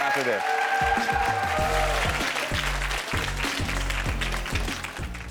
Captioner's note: audience applauds